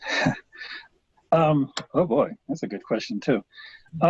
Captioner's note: chuckles